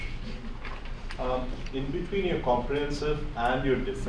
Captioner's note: voiceover